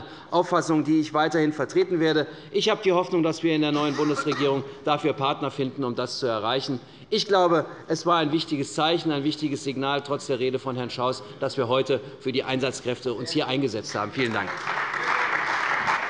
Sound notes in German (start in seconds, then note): 13.8 Beifall bei der CDU und dem BÜNDNIS 90/DIE GRÜNEN